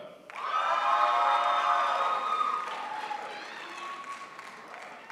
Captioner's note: crowd applauds